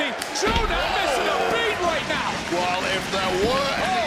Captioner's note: audience cheering